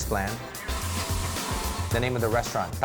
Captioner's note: sizzling